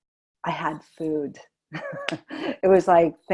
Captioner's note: chuckling